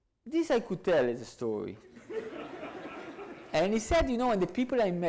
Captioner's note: audience laughs